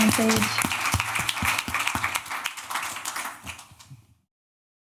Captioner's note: applause